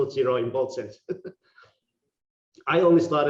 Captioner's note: laughing